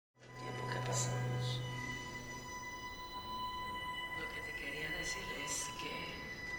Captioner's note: dramatic music; people speaking in foreign language